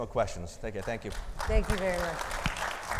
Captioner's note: audience applauding